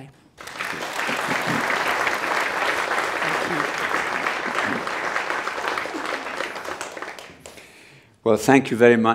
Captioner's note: applause